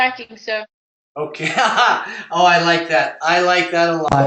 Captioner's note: laugh